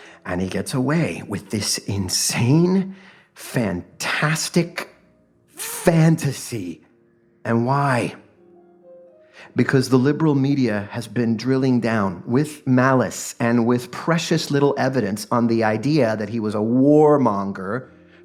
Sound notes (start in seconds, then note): none